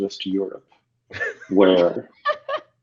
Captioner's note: laughter